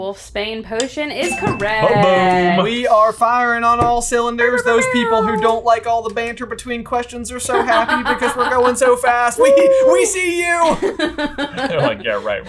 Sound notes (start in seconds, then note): 4.4 airhorn noise